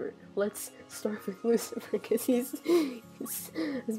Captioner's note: wheeze; deep breath